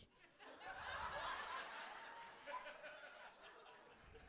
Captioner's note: audience laughs